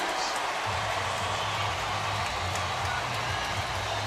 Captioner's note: crowd cheering